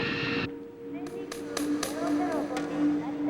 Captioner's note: flight announcements in chinese